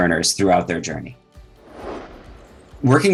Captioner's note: air whooshing